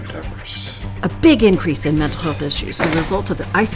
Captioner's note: podcast Voice